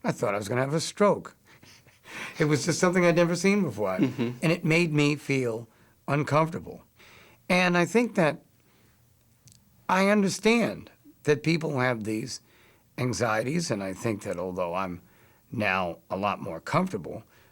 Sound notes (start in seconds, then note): 3.8 laughs